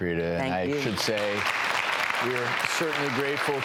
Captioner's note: applauding